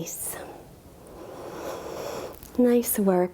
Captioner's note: breathing deeply